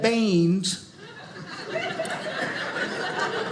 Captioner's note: audience laughing